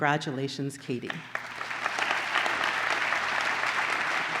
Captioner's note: applause